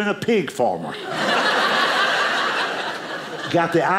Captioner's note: audience laughing